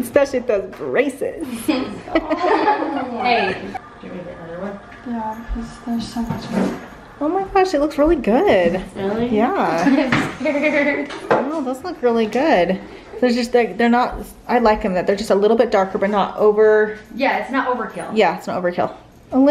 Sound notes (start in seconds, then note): 1.6 laughing